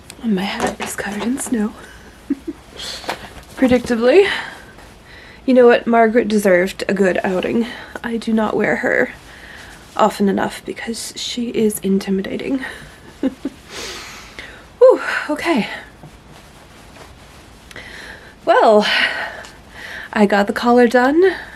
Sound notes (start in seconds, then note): 14.0 laughs